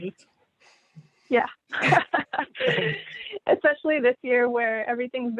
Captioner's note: laughter